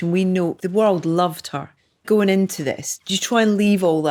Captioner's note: none